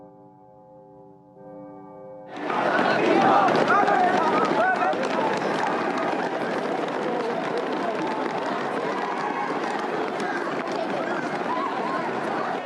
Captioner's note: bell tolling